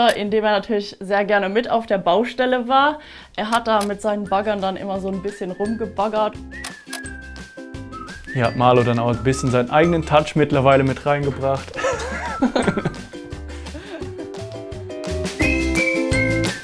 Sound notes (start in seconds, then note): 11.7 laughter; 15.4 cheerful music